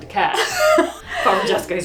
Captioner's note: laughs